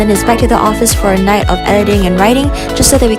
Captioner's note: none